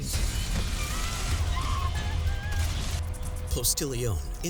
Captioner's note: victim screaming